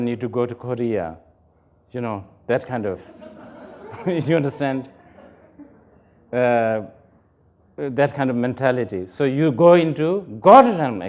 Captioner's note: laughter